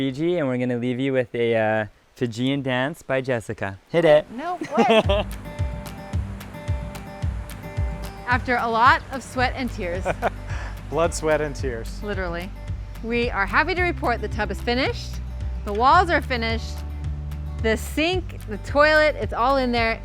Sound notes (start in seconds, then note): 5.5 folk music; 10.0 laughs